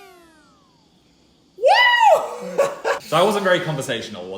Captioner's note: laughs